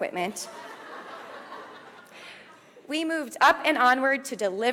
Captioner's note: audience laughs